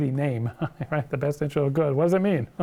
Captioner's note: laughs